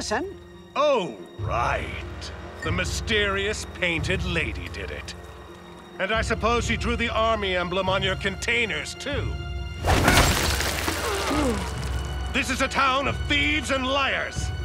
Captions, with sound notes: Oh, right. The mysterious painted lady did it. And I suppose she drew the army emblem on your containers, too, [gasping] This is a town of thieves and liars.